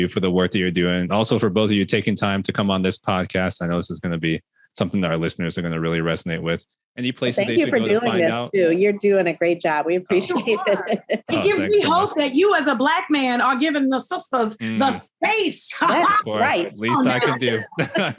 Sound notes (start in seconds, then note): 10.1 laughing